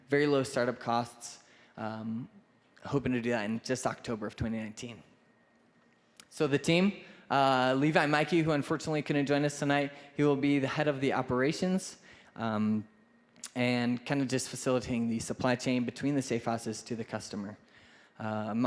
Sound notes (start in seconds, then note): none